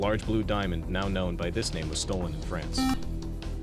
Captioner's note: buzzer